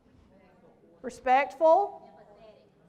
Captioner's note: crowd speaks